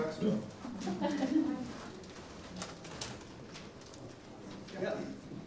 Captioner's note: audience laughing